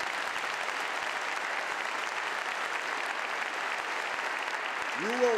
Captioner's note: applause